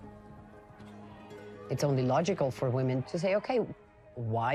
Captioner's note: in English